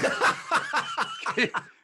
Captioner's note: laughter